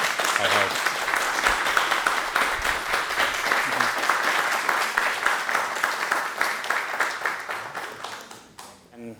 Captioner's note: applause